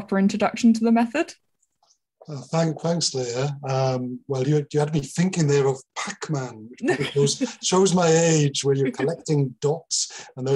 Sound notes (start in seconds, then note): 6.8 laughing